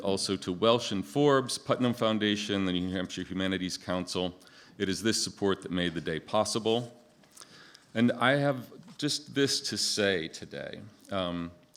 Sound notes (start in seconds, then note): none